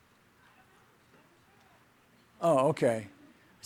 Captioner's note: speaking off microphone